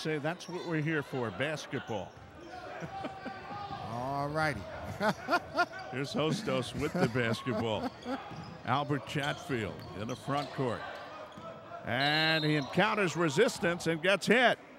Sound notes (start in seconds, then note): 2.1 shoes squeaking; 2.1 yelling; 4.6 laughs